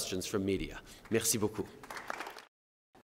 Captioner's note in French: Applaudissements